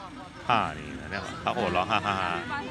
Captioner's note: laughs